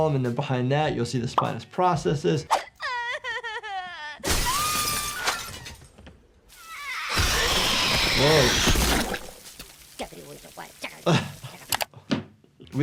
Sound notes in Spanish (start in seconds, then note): 2.6 criatura llorando; 4.2 vidrio roto; 4.3 criatura grita; 6.6 La criatura golpea y chilla; 10.0 la criatura murmura; 11.0 El doctor se ríe